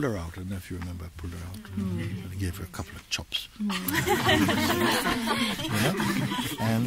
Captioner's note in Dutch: gelach